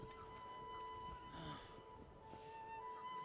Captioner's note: moans